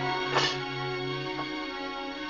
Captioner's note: tray clanks